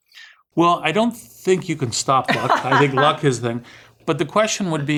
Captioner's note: laugh